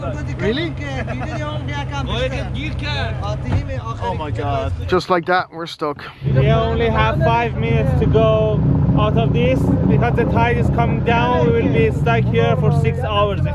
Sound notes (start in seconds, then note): 1.0 speaking foreign language